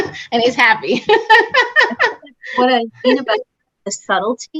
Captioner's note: laughter